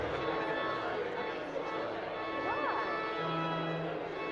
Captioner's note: all chattering